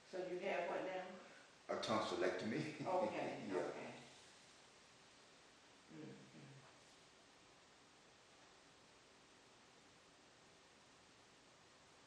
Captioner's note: laughs